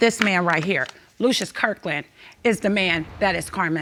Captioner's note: none